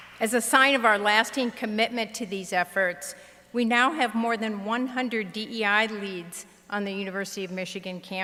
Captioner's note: applause